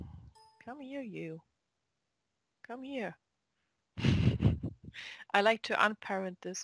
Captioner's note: chuckle